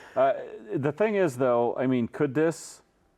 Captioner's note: laughs